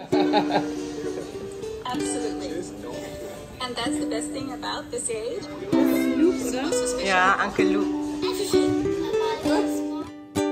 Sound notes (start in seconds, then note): 0.0 laugh; 6.2 speaking German; 9.6 background music